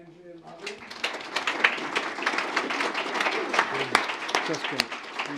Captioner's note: applause